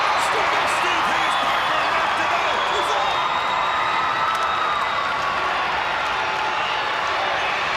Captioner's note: crowd cheering